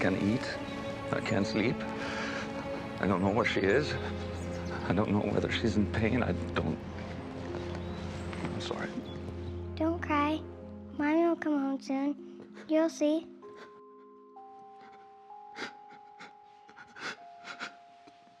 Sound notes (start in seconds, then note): 7.4 birds chirping; 13.7 Frank crying